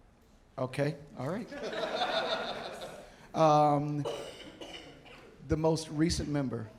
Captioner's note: audience laughing